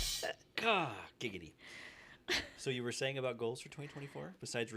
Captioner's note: laughter